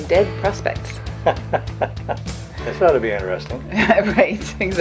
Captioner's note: laughing